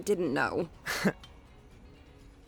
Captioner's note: chuckles